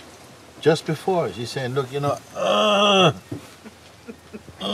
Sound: Frustrationsgeräusch; lacht

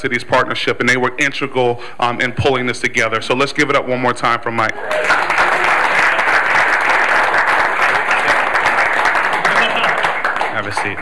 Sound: clapping

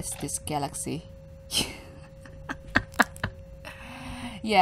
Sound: laughs as the realisation goes 100

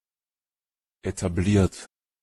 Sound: fast Pronunciation

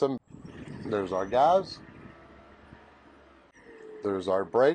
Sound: engine revs

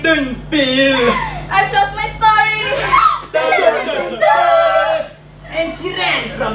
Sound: dramatic gasp

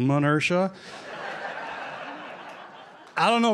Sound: laughter

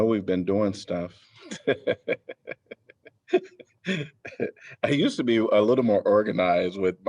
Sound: laughter

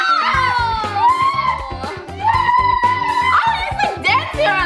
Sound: shouting

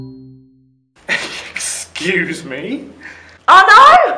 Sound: chuckling

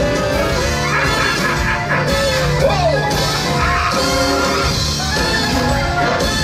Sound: laughs

